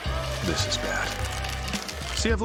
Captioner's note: shell cracking